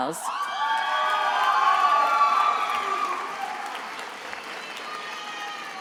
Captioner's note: attendees applauding and cheering